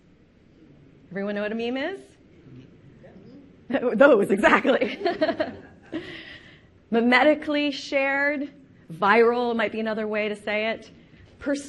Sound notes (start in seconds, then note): 4.4 laughing